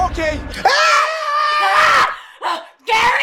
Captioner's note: ghost screaming